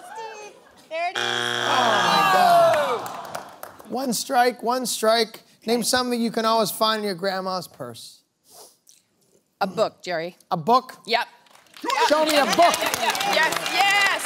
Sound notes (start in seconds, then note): 0.0 laughter; 2.8 buzzer sounds; 4.0 audience groans